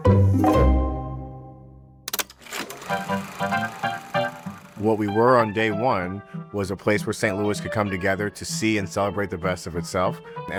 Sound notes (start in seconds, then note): 0.0 light music; 2.4 reel spinning; 3.8 old timey music